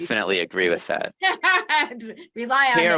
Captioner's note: laughs